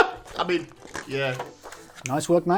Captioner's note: laughing; papers rustling